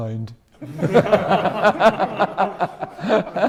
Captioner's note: laughing